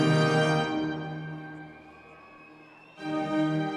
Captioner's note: audience cheering